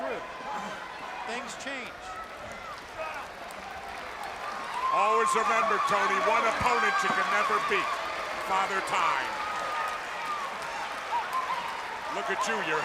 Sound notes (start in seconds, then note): 2.7 crowd chatter